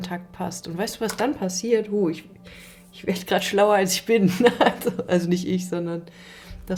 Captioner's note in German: gelächter